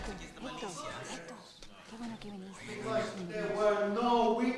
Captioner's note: speaking in foreign language